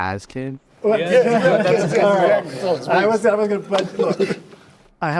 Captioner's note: everyone laughing